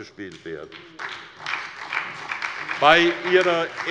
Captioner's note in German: Beifall bei der SPD